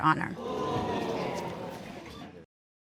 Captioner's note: audience exclaims